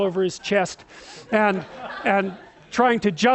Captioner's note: laughter